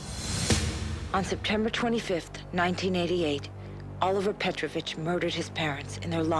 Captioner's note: voiceover